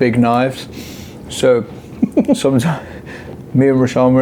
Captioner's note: laughs